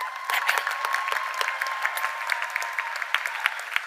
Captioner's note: cheers and applause